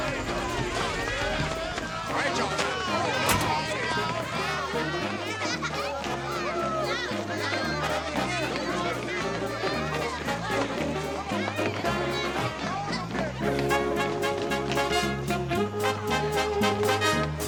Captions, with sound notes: - All right, y'all. (people chattering)